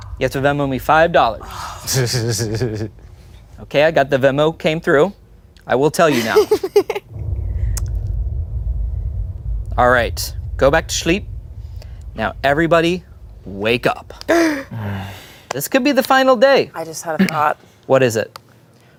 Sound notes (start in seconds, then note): 1.9 laughs; 6.1 laughs; 14.4 gasps